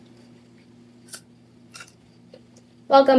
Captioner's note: crunch